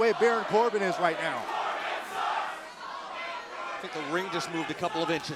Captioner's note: crowd cheering